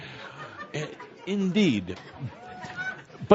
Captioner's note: laughter